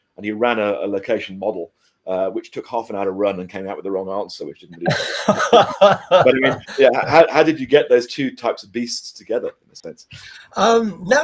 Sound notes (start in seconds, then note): 4.7 laughing